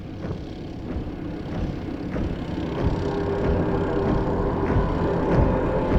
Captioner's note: boots marching